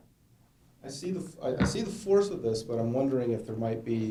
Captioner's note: voiceover